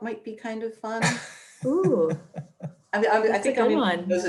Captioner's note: laughs